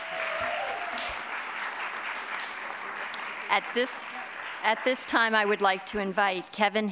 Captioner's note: applause